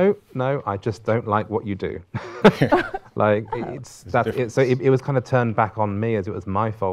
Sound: laughing

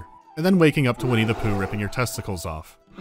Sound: screaming and bear growl

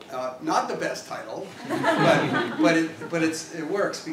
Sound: laugh

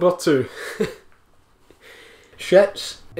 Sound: sad boy laughs at his own joke

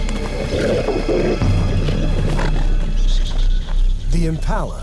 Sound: lioness roars

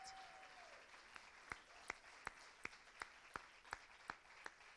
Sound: cheers and applause

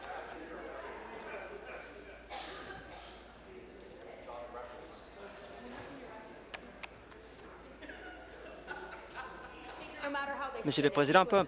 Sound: conversation din

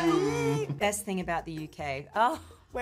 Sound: squealing

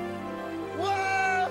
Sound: birds chirping

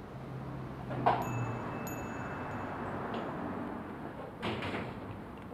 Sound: door opens

